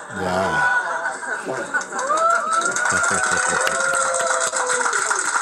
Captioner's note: clapping and cheering